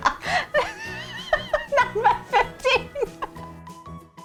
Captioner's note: laughing